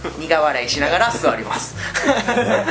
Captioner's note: laughs